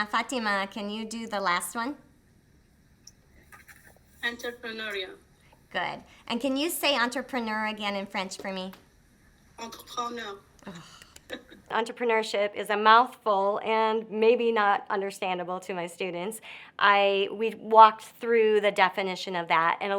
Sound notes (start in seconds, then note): 10.6 sighs